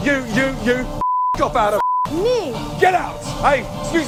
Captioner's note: beep